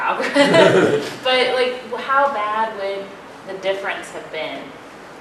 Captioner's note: laugh